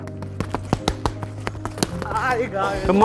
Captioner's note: mitts boxing